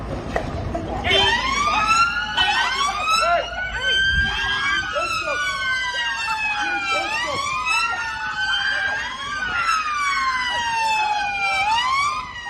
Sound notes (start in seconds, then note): 1.0 police siren as officers brutalise crowd